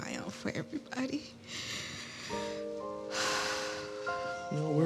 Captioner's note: sighs